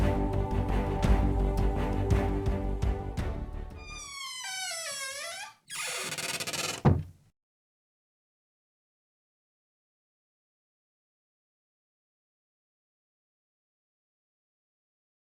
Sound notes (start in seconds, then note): 3.8 door squeaks; 6.6 door closes